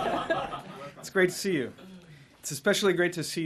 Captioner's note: laughter